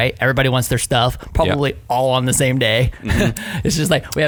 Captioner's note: laughs